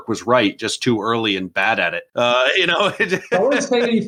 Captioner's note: laughing